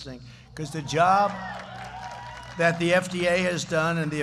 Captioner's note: applause